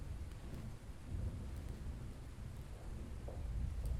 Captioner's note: thunder rolling